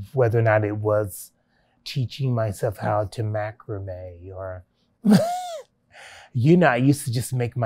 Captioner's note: laughs